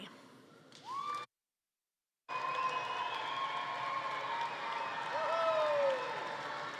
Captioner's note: attendees cheering and applauding